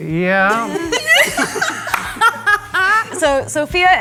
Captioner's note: everybody laughing